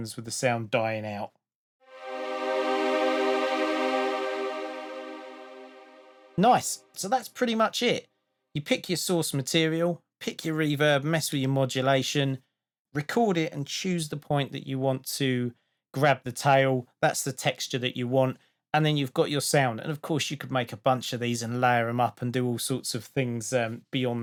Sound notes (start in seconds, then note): 1.9 spacey sound